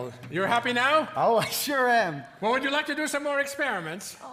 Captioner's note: none